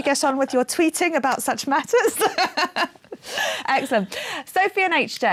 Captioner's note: laughing